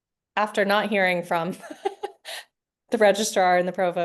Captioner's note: laughing